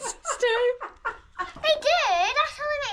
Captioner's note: laughter